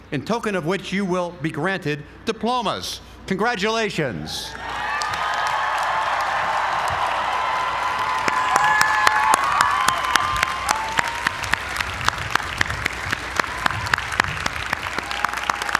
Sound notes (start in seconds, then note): 4.6 applause